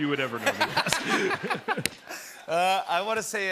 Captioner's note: laughter